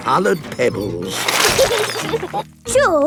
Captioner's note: laughing